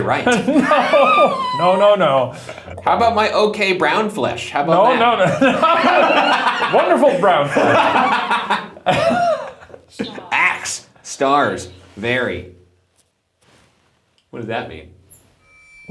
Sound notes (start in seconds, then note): 4.7 laugh; 7.9 laughs